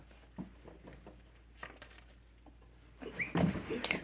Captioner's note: paper rustles